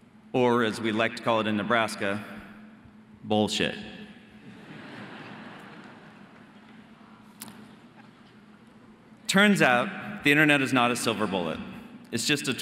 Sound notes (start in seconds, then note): 4.4 audience laughing